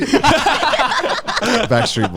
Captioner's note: everyone laughing